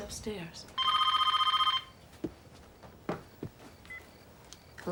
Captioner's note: phone ringing